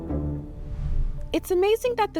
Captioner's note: bright music continues; transition whooshes